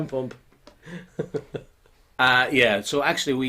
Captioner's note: chuckling